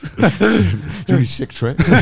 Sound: all laughing

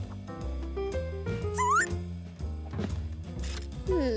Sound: bird chirps

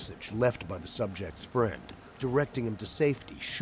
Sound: voiceover

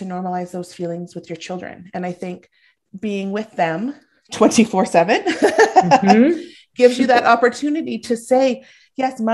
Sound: laughing

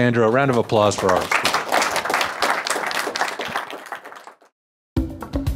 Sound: audience applauds; tribal drum music

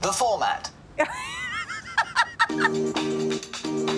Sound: laughing

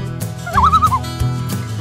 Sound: loon call

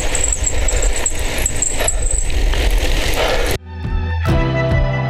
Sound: cycle rides sound

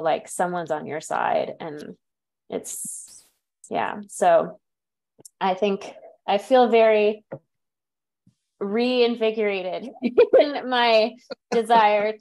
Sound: background laughter

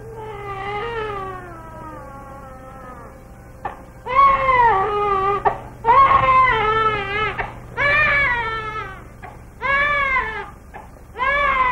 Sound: baby crying

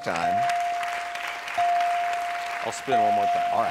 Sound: crowd clapping

